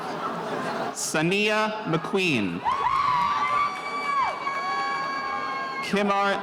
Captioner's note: spectators cheering